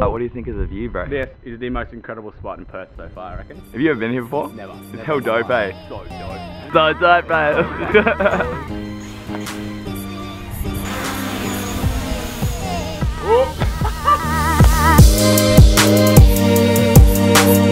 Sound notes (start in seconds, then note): 7.4 laughs; 8.6 drones flying; 12.6 laughs; 14.6 music intensifies